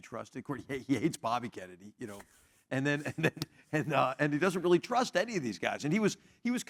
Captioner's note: laugh